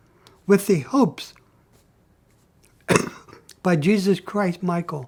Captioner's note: coughs